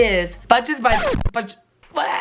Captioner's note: record scratches